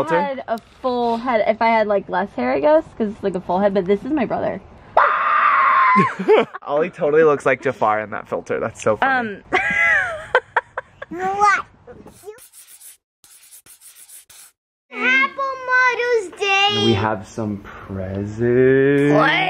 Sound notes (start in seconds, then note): 4.9 screams; 9.7 laughs